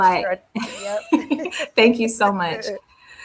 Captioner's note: laughter